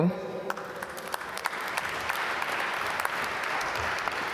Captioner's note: applause